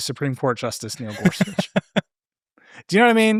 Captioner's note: laughing